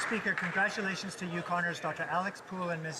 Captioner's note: some Applause